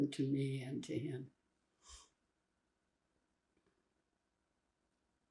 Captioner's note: pauses 8 seconds